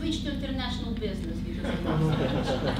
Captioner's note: audience laughs